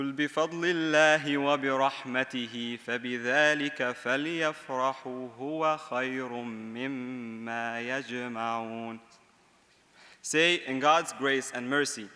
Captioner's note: speaking in Arabic